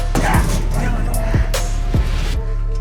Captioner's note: door bang